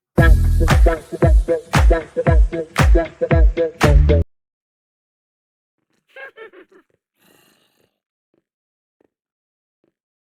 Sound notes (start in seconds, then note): 0.1 snazzy music; 6.1 witch cackles